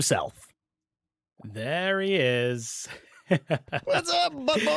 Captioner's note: laughs